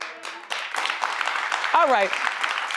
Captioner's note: audience applauds